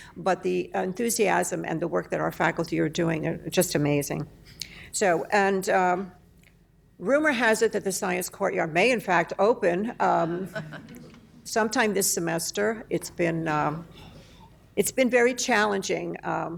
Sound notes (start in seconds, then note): 10.2 laughter